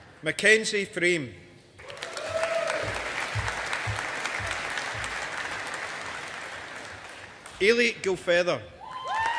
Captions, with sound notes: Mackenzie Frame. (AUDIENCE APPLAUDING) Eilidh Gilfeather.